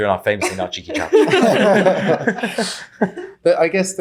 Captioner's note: laughing